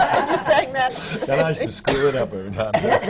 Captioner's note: laughter; laughs